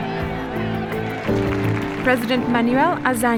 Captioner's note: crowd applause